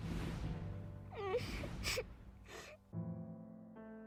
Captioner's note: crying